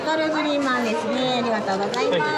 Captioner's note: speaking Japanese